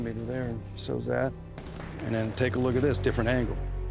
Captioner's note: flashback, gunshots fired